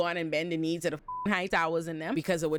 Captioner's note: beep